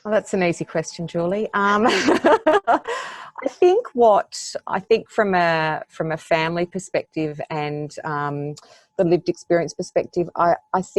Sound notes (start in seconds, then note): 1.9 laughs